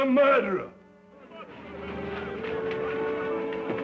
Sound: men clamoring

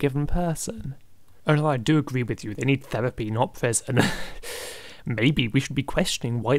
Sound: nervous laugh

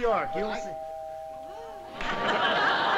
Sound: doorbell rings

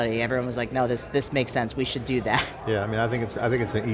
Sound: chuckles

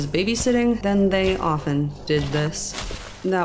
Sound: sizzle

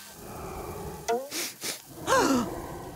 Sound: sniffing, gasping

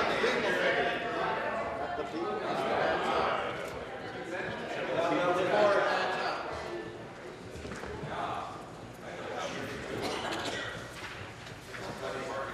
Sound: conversation din

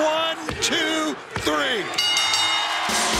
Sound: bell rings

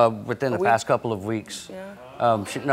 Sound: audience oohing

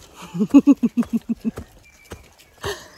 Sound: chuckles

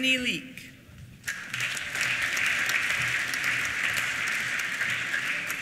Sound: applause

